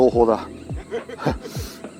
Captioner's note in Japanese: 笑い声